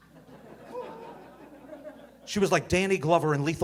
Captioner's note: audience laughing